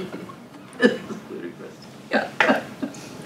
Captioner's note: laughs